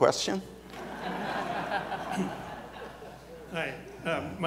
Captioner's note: audience laughs